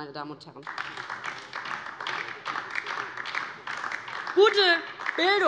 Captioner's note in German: Beifall DIE LINKE